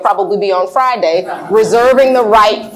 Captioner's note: laughs